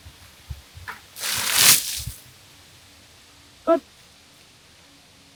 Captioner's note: water splashes